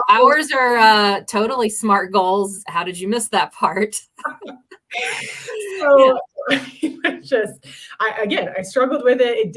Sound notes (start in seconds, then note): 4.1 laughter